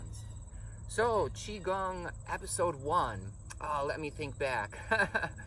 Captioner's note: chuckles